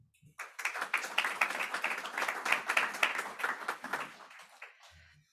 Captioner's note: audience applauding